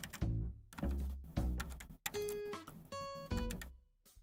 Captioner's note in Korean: none